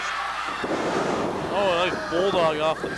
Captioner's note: wrestlers clatter onto the mat